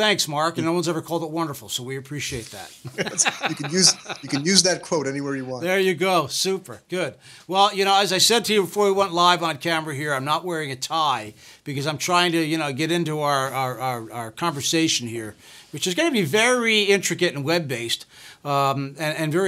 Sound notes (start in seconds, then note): 2.8 laughs